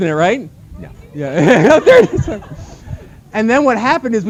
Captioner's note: laughter; laughing